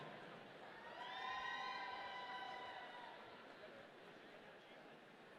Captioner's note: audience cheering